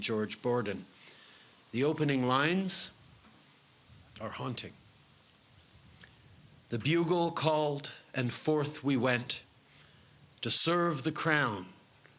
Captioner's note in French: Voix en Anglais